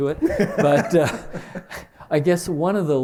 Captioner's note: chuckle